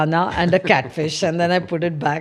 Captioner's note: laughs